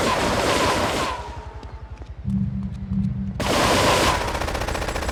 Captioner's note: gun firing